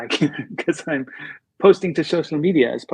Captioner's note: laughter